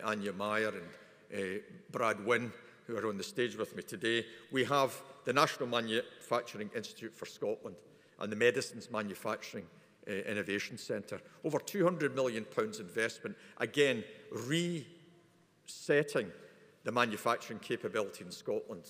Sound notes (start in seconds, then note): none